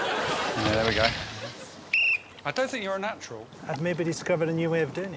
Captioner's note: blows whistle